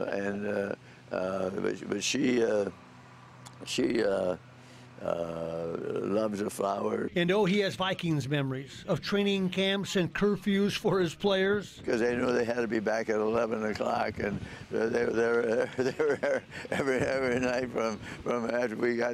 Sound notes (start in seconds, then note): 5.7 laughter